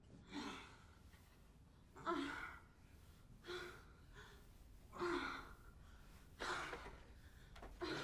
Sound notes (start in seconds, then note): 2.4 woman moaning